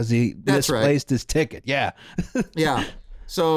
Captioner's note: laughs